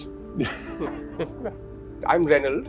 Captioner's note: laughter